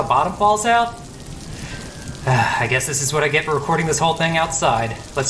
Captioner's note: sigh